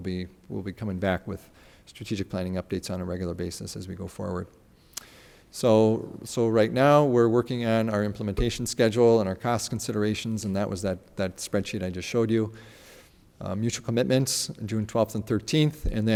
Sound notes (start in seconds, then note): none